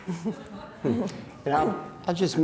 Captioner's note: audience laughing